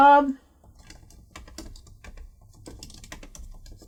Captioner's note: typing